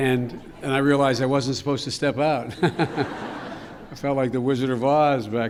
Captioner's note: laughter